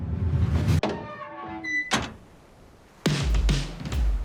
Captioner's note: door creaks